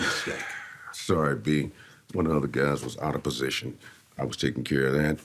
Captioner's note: sighs